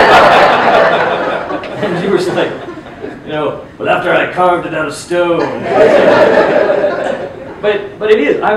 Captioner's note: laughes